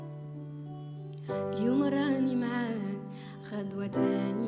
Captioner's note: singing; non-english speech